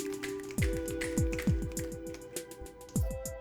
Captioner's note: snapping